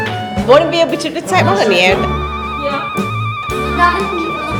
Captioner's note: speaking German